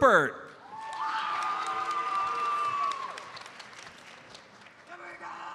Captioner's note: audience cheers and applauds